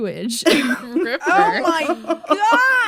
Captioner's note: laughter